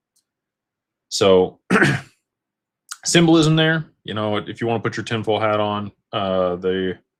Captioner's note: clears throat